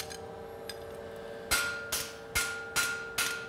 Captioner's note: machine noise